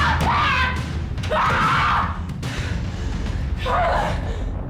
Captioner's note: screaming